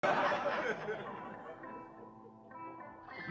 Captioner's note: audience laughs; peaceful music